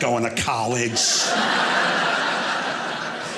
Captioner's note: audience laughing